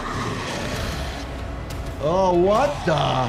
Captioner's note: dramatic music; zombie growling